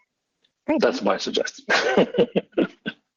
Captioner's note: laughs